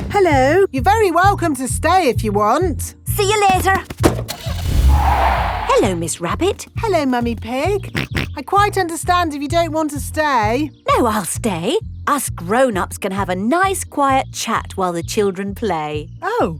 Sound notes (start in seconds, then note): 3.9 car starting; 4.2 tires screeching; 7.8 snorts